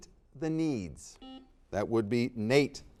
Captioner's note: buzzer dings